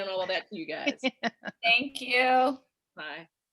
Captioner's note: female laughs